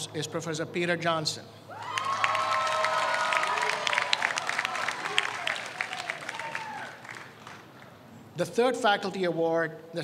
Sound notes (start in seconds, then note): 1.7 audience cheers